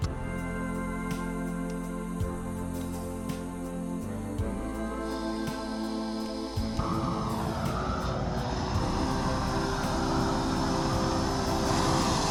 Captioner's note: soft music; drilling